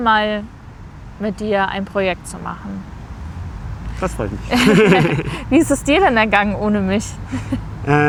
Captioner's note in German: gelächter